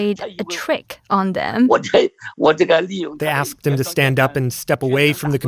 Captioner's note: speaking Mandarin